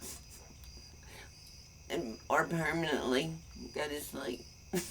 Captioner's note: laughs